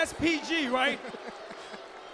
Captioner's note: crowd cheering